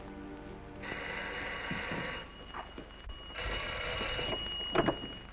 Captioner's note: phone rings